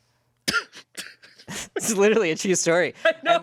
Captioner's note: laughs